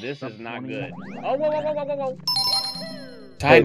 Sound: imitates Mario screaming; success jingle

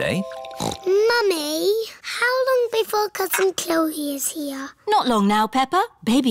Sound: snorts

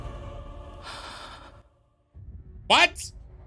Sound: Devos gasps

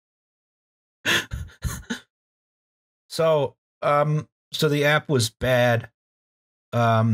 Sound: laughter

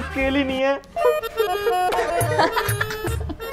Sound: crying; laughing

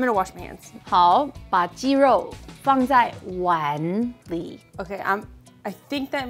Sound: speaking in mandarin

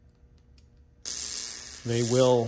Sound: sparks zapping

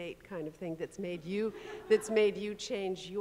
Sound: audience chuckling

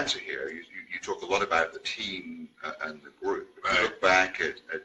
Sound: murmurs

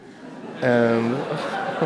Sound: audience laughing

